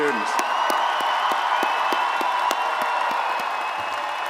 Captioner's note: crowd cheering